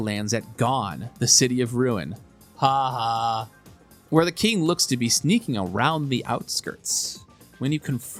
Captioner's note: ha ha